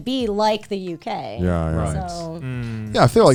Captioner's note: guys humming in agreement